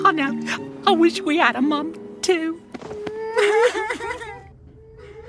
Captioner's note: strange sobbing; more strange sobbing